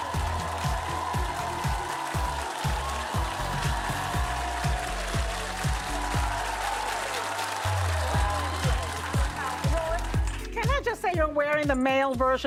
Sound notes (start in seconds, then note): 0.0 cheers and applause